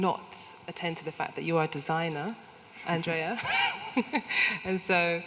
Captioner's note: laughs